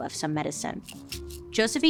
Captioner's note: pills rattling